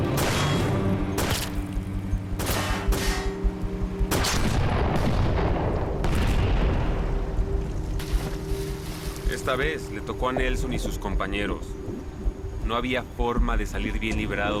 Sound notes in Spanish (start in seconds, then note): 0.2 Disparos; 5.9 Explosión